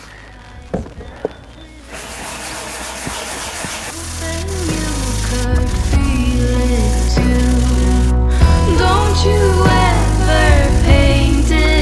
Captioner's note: scrubbing Noises Speed Up as Music Swells